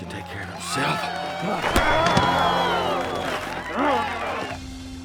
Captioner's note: crowd cheering